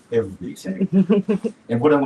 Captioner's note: laughs